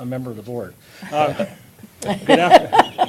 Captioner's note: laughter